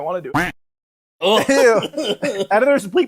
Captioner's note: belches